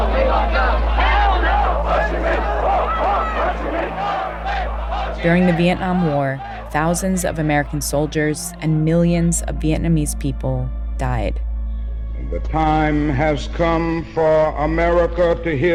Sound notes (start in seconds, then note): 10.7 soundbite of archived recording